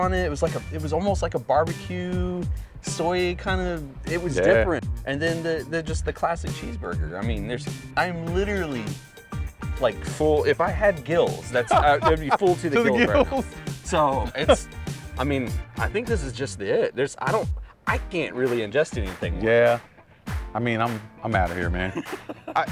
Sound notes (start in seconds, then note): 13.7 laughs; 21.8 laughs